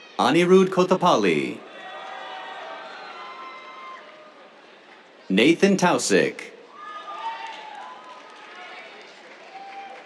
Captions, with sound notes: Anirudh Kothapalli. [CHEERS, APPLAUSE] Nathan Tausik. [CHEERS, APPLAUSE]